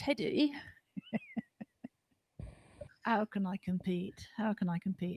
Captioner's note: laughter